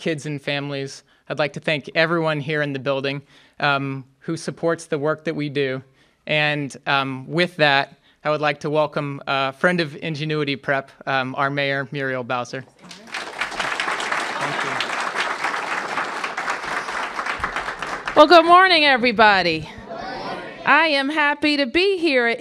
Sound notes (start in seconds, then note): 12.8 applause